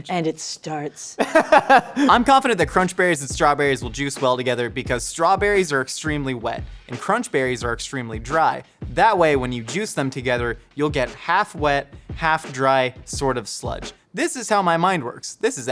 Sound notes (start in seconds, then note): 1.2 laughs